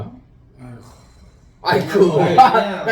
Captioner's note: expressing heartache in Korean